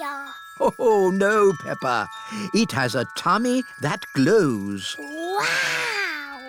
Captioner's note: laughs